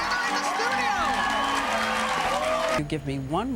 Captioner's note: audience applause